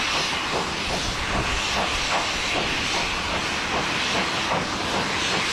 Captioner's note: train passes